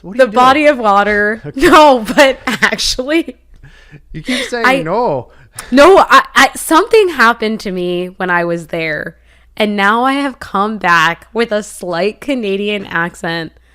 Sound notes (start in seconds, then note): 3.6 laughs; 4.5 in canadian accent